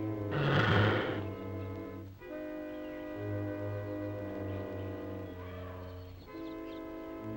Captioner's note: mysterious music; snake hissing